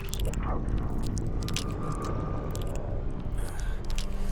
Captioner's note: flesh squelching